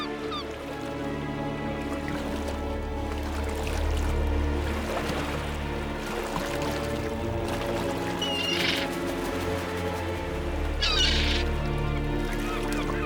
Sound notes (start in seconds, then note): 0.0 gulls cawing; 0.3 eerie music; 8.3 gull screeches